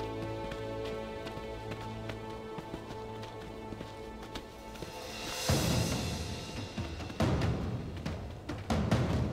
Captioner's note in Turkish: Ayak sesleri